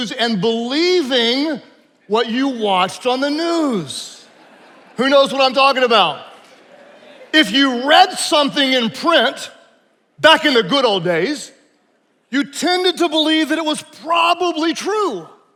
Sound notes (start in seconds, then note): 4.2 attendees laughing